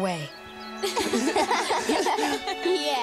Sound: laughing

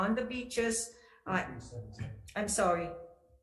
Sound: man speaks faintly

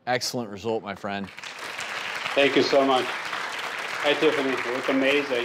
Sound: applause

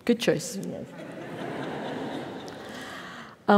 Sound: laugh

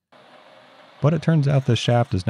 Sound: lathe whirring

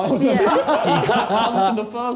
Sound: laughing

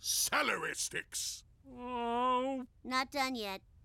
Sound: groans

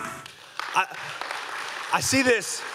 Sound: audience clapping

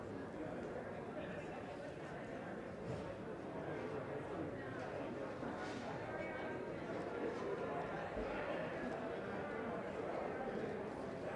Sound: indistinct chatter

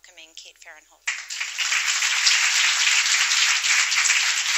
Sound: applause

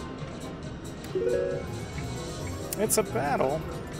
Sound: machine beeps

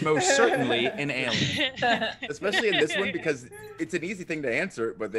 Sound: laugh

